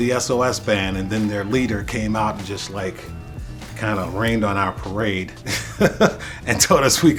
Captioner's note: laughter